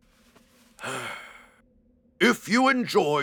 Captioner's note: sighing